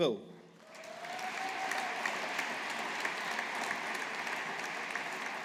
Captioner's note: audience applauding